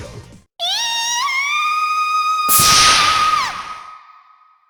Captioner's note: panicked cry